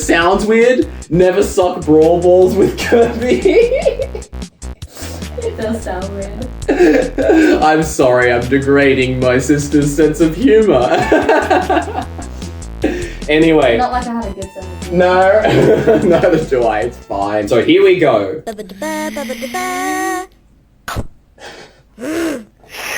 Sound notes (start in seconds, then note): 2.7 laughs; 11.8 laughs; 18.2 young making music with voice; 20.9 various other voiced sound effects